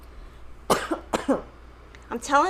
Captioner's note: coughs